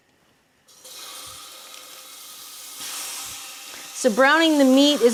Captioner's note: meat sizzling